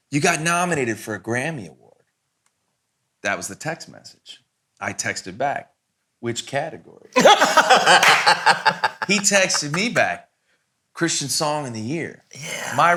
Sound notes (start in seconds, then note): 7.1 all laughing